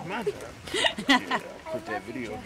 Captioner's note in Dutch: Tina lacht